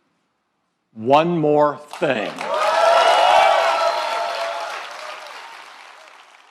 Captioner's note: applause